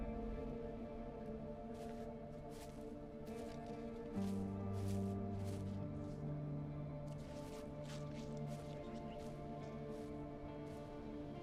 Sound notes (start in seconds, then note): 0.0 somber music; 1.1 slow footsteps; 10.6 somber music